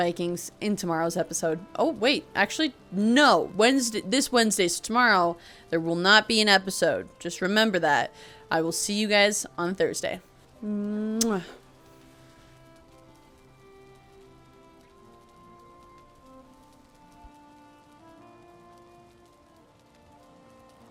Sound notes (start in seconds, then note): 10.7 kiss